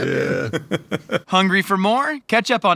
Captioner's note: laughing